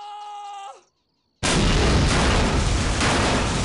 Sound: boom!

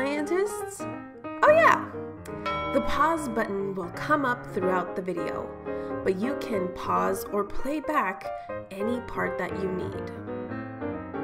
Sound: ding

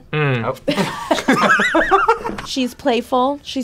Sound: both laugh

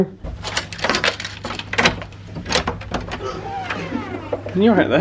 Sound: door handle clanging

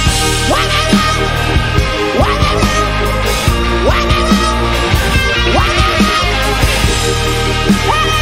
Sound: vocalizing

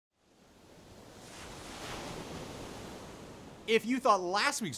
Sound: waves crashing

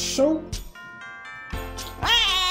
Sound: A baby cries

